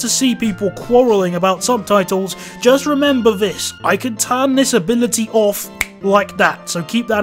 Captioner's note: snaps fingers